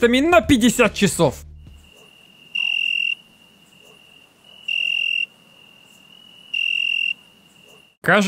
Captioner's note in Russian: звуки сверчков